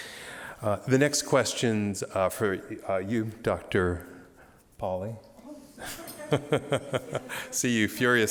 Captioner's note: laughter